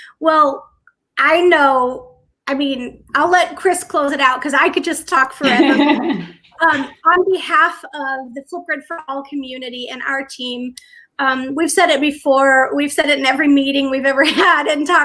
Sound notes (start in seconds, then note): 5.4 laughter